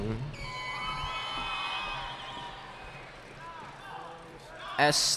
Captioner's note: cheering